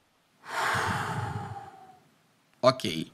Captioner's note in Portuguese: suspirando